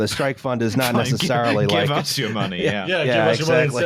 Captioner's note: laughing